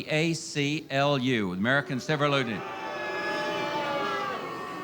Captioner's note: audience boos